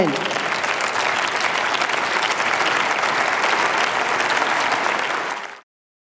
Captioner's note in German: Applaus